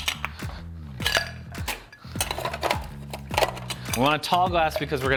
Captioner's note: ice cubes clinking